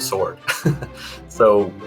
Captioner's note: laughing